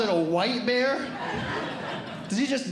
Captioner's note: audience Laughing